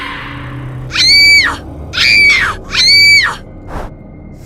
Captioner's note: female scream